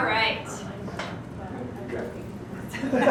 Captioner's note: background Discussion